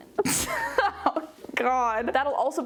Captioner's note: laughing